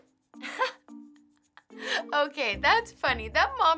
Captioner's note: laughing